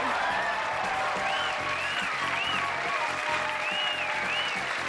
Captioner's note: cheers and applause